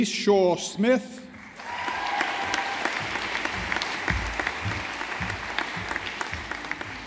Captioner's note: audience applauding